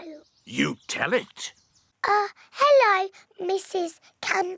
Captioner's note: none